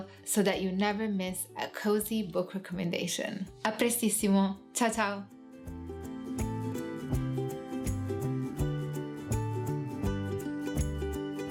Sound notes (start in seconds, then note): 3.7 gentle music; 3.7 speaking Italian